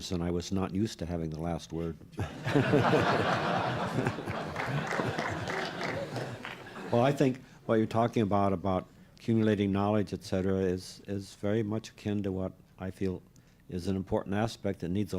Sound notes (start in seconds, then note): 2.1 laughter